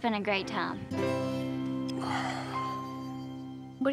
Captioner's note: sighs